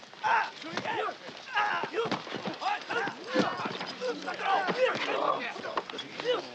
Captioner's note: grunting; shouting in Japanese